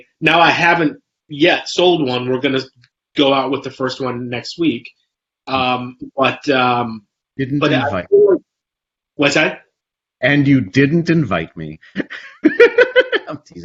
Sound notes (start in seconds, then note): 7.5 mic warbles; 11.9 both laugh